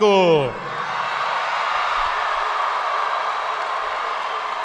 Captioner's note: audience cheering